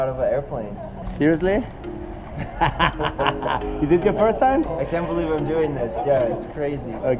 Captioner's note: laughs